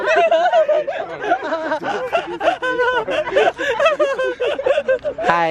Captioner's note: laughing so hard